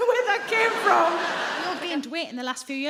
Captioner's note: audience laughing